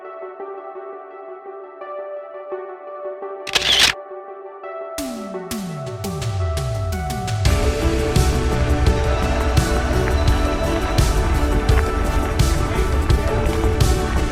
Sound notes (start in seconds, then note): 3.4 camera shutter click; 5.2 upbeat music